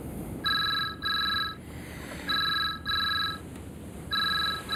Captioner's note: phone ringing